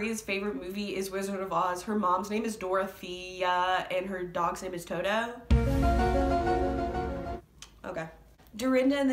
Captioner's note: tongue click